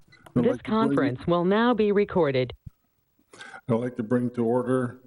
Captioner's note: computerized Voice